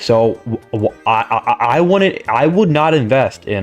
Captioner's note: stutter Moment